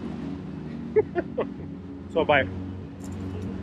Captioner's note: laughs